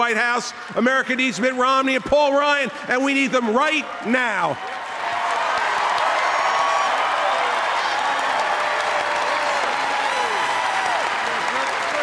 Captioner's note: applause